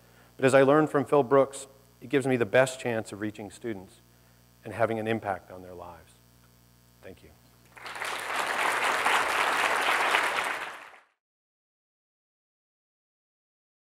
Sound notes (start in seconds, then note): 7.7 applause